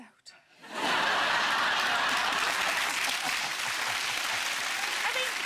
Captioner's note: audience laughing